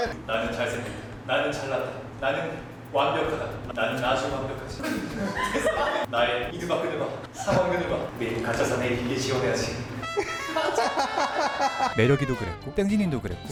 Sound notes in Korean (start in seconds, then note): 4.9 웃음소리; 9.9 군대 기상 나팔 소리; 10.1 웃음소리